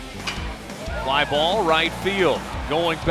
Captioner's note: voiceover